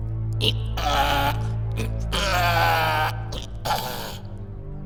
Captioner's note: ironic ..Donkey braying sound